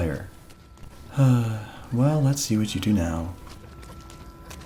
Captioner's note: sigh